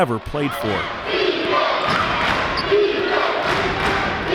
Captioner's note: chanting